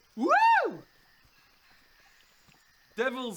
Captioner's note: unimpressed silence